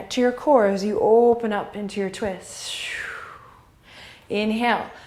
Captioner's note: sharp exhale